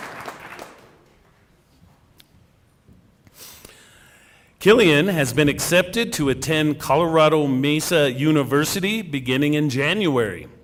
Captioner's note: cheering and applause